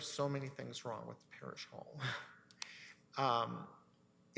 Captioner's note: chuckles